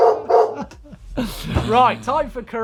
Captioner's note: loud barking